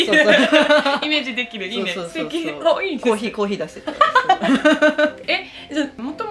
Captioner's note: laughs; laughs